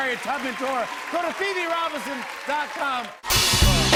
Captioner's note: cheers and applause continue